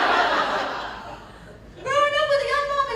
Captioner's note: laughter